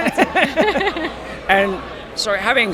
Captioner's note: group laughs